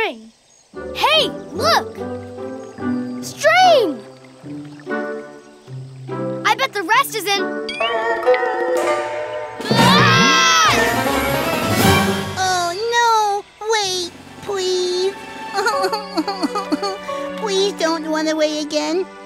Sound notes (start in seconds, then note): 9.6 screaming; 15.6 crying